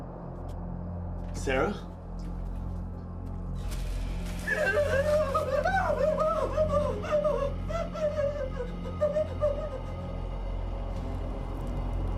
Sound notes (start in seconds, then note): 3.6 plastic sheet rustling; 4.6 Sara gasping